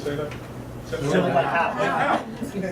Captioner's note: crowd; laughter